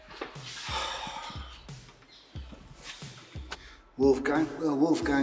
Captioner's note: Barry sighs